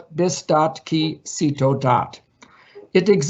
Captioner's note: speaks in foreign language